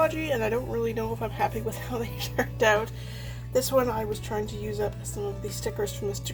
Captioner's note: laughs